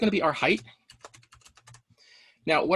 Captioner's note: keyboard click